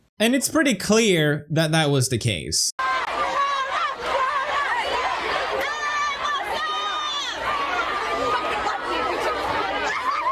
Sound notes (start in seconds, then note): 2.8 yelling